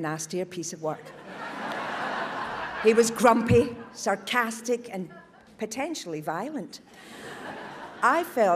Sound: audience laughs

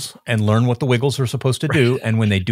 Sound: chuckling

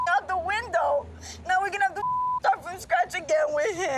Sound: beep

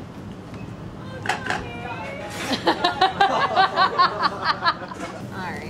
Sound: all laugh

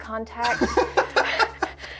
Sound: chuckles; laughs

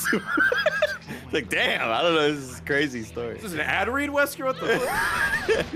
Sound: laughs

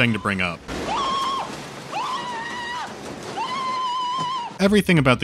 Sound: Marv scream

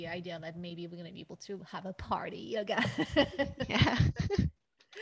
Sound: laughs

